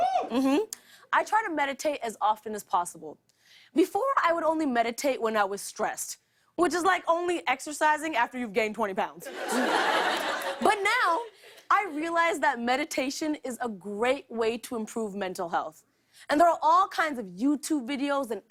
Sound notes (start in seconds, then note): 9.2 laughter